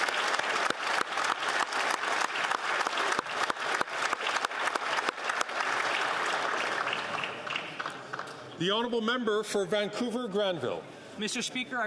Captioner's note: some Applause